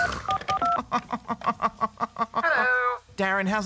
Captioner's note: scoffs and laughs